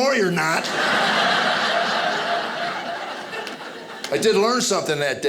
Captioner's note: audience laughing